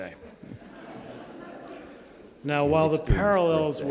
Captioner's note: audience chattering